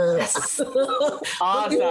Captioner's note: laughing